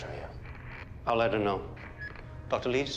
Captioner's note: radio static